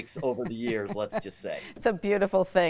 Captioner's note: laughs